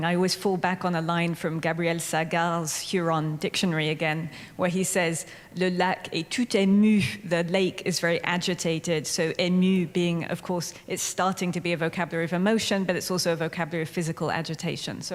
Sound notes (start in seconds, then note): 5.7 speaking french; 9.2 speaking french